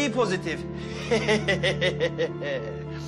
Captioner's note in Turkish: Gülme